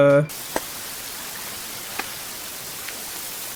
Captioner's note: white noise